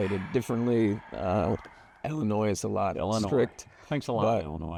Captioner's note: sighs